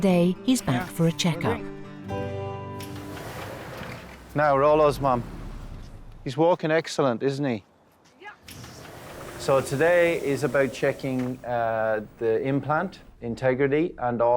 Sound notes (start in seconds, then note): 2.8 doors whooshing